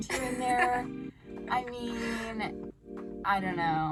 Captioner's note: laughing